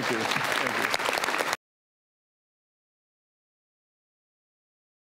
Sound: audience applause

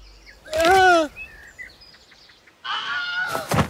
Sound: yelling

